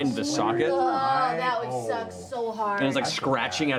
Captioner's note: groans